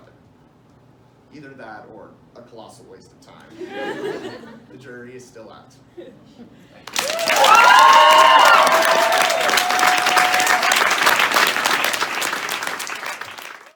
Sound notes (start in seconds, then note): 3.5 laughter; 10.1 applause